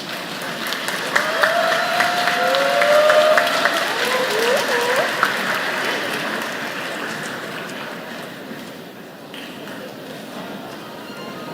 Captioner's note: applause